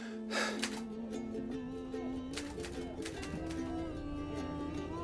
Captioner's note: crew chattering